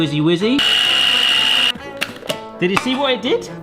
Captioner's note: mixer whines